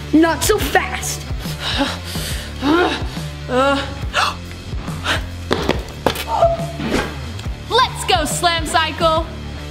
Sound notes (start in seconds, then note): 0.0 upbeat rock music; 2.9 grunting; 4.4 exclaiming